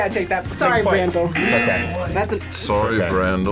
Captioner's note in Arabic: يرن الجرس